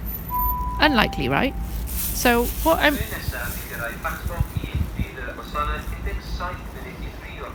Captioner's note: announcement in Welsh stating which trains are coming next